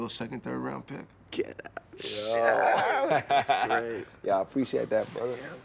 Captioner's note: Radar laughs